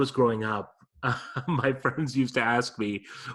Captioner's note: laughs